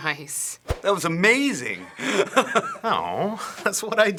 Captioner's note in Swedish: skrattar